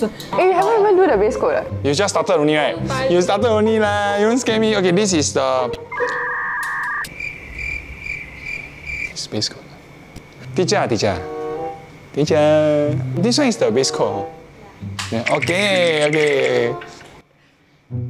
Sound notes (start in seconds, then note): 7.1 crickets